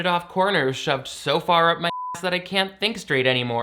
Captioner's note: beep